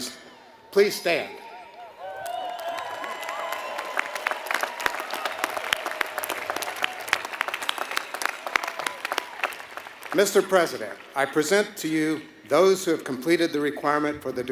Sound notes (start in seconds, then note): 5.0 applause